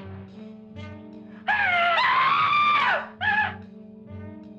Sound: screams

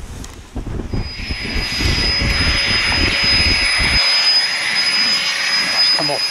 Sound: electric mini fan whirring

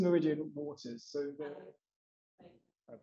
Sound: audio trails off

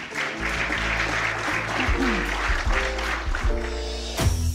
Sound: applauding

